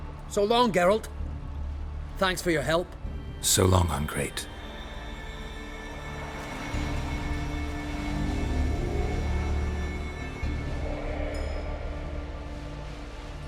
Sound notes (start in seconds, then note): none